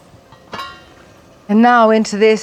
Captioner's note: lid clinking